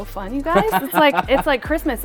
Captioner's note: laughing